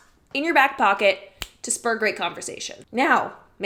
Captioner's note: clicks tongue; snaps fingers